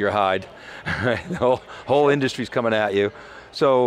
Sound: chuckles

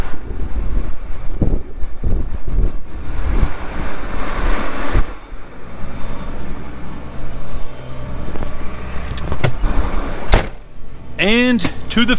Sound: tractor sound

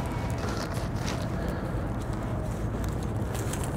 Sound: banners continue rustling

